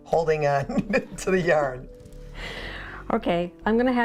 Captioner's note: laughs; laughing